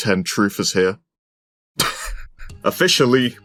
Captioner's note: wheeze